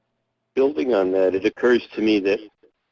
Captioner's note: voiceover